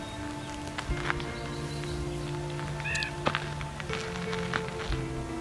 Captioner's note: bird calls